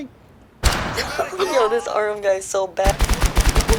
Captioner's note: laughs